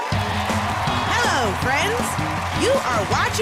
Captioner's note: cheers and applause